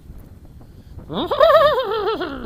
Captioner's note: neighs loudly